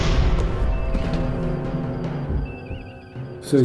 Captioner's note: heartbeat continues